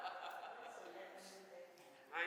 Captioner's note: laughs